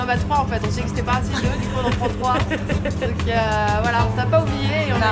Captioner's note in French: rires